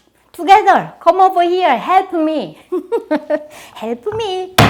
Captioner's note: laughs